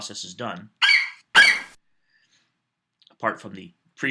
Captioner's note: FlightCheck eagle screeches